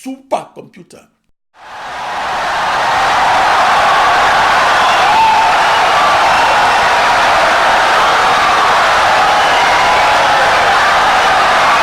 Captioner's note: wild applause and cheering for 17 seconds